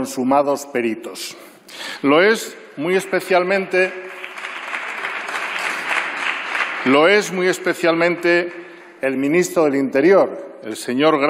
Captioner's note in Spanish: Aplausos